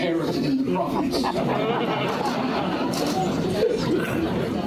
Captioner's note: laughter